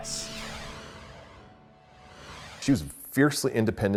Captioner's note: logo swooshes